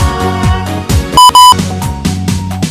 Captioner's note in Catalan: doble bip